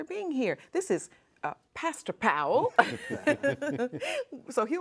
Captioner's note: laughing